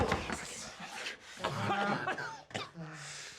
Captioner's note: coughing